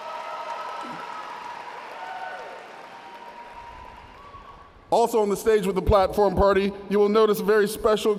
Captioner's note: audience cheers